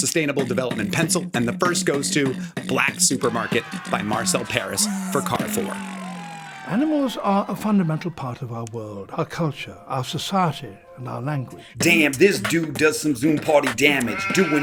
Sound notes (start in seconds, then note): 5.8 comic cheering